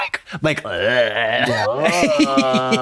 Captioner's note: Trixie groans; Katya moans